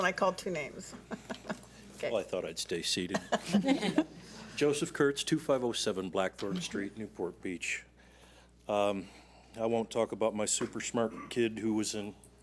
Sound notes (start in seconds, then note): 3.1 laughs